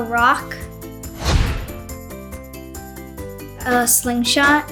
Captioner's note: screen whooshes